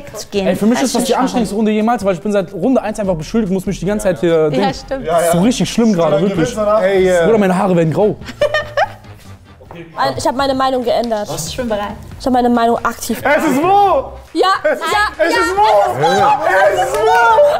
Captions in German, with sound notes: Für mich ist das die anstrengendste Runde jemals. Ich bin seit Runde eins beschuldigt und muss mich die ganze Zeit ... Das ist so richtig schlimm, meine Haare werden grau. (Lachen) Ich hab meine Meinung geändert. Ich hab meine Meinung aktiv geändert. Es ist Mo! - Ja, ja, ja! Es ist Mo! Es ist Mo!